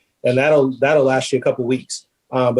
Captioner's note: none